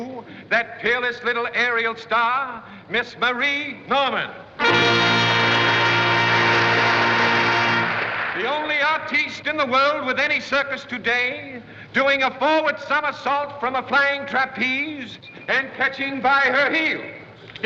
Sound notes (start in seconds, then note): 4.6 fanfare; 4.7 applause